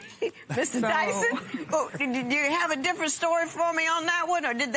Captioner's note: laughs